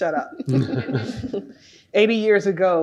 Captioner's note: laugh